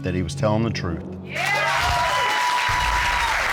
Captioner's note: audience cheers